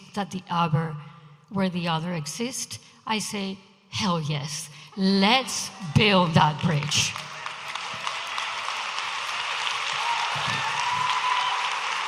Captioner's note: audience applauding